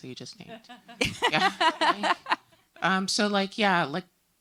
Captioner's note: laughing